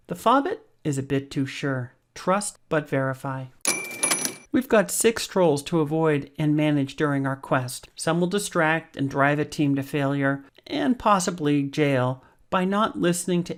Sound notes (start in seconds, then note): 3.6 cash register dinging